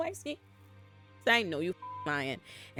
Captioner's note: beep